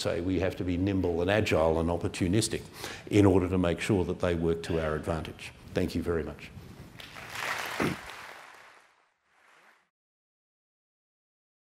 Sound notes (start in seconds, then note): 7.0 applause